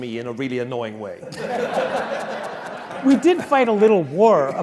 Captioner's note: laugh